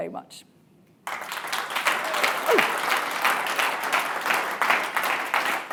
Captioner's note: audience applauding